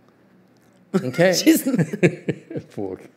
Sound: laughs

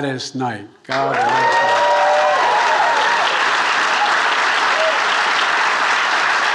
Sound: attendees cheering and applauding

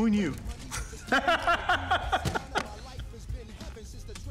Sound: laughing

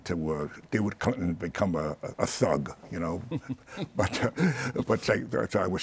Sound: chuckles

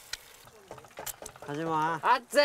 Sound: tapping

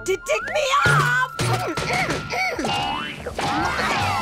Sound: grunting

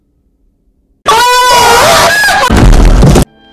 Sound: loud Screaming, Thump

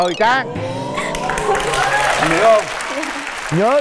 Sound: audience applause

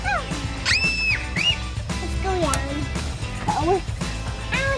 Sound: child squeals

